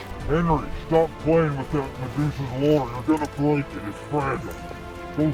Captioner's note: man speaking with a ghostly voice